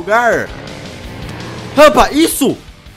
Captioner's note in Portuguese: VRUUM VU DUM, barulho do TURBO